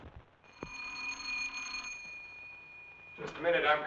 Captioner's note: doorbell Ringing